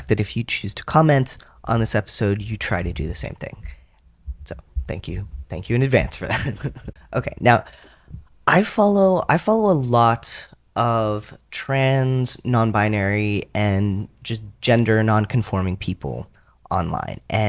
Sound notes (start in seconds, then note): 6.2 laugh